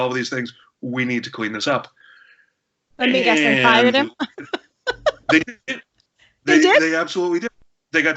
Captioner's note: laughs